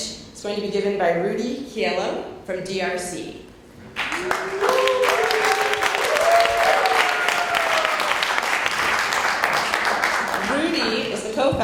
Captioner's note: cheers and Applause